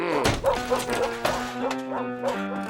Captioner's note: dog whimpers